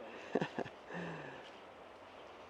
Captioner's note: laughs